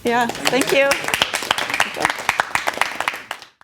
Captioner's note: applause